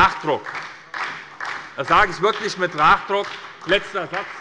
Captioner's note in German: Beifall bei der SPD